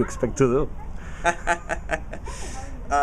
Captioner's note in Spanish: risas